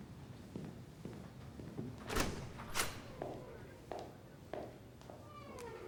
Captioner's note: door opens, shuts